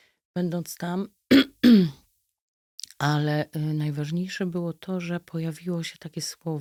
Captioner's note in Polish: kaszel